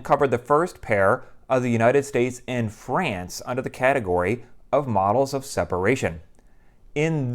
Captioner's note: none